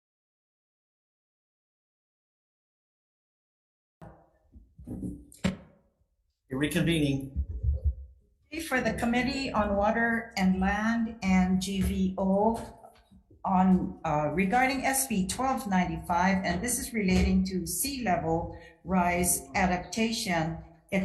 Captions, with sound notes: (gavel slamming) We're reconvening. - Okay, for the Committee on Water and Land and GVO on, regarding SB1295, and this is relating to sea-level rise adaptation.